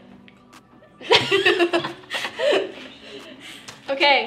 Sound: laughter

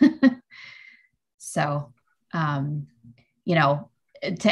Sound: laughs

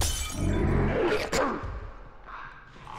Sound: Bloater growls; bottle shatters; Bloater snarls; Clickers croak in distance

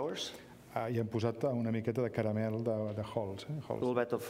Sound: speaking catalan

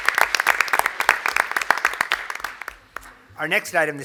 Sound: applause

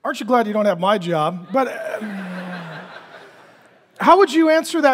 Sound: congregation laughing

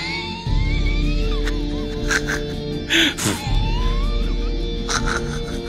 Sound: crazed laughing

